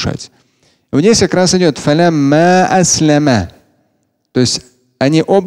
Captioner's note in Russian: Говорит на арабском